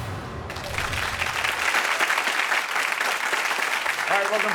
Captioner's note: audience applauding